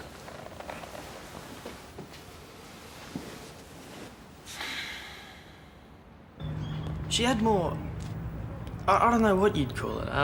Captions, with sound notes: (Sighs) She had more — I don't know what you'd call it —